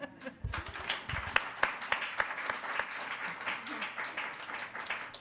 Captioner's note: attendees applauding